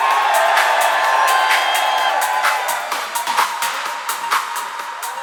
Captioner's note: crowd cheering